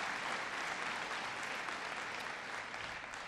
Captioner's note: applause